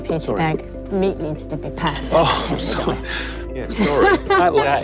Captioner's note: laughs